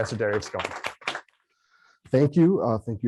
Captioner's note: applause